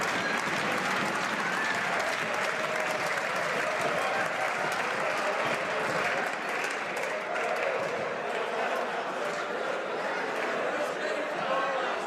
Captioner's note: some Applause